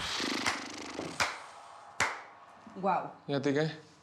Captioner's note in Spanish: palmadas